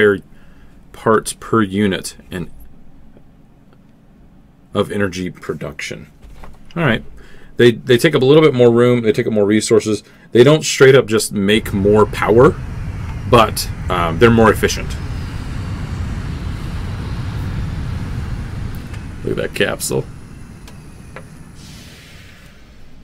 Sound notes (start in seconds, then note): 15.8 landing thrusters